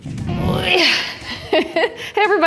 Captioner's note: grunts; laughs